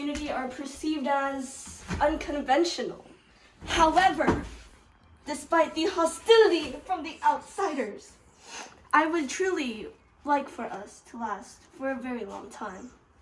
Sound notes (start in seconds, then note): 8.3 sniff